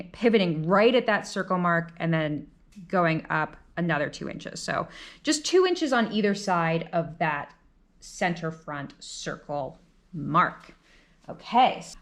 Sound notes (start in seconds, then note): none